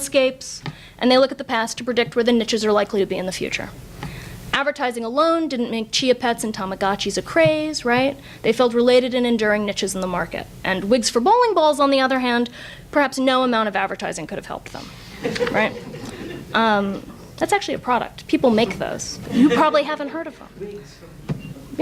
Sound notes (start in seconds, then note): 15.1 audience laughs